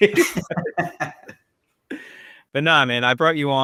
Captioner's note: people laugh